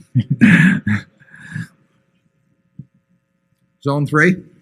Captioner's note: laughter